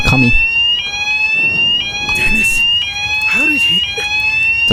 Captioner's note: fire alarm